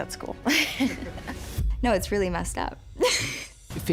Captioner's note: laughs